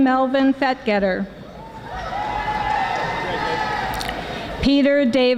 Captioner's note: audience screaming